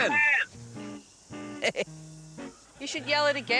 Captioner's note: laughs